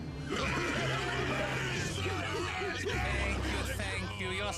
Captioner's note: crowd shouting